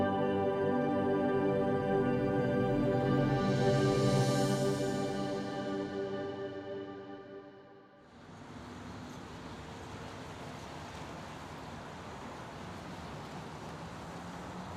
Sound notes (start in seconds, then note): 7.9 quiet street noise